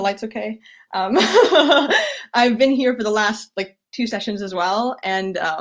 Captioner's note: laughs